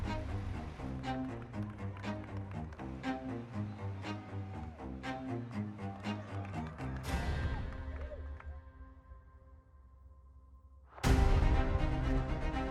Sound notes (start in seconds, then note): 6.8 crowd clapping